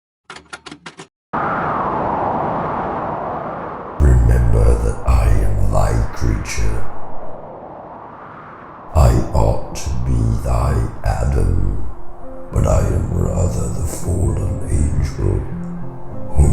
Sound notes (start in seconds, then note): 0.0 wind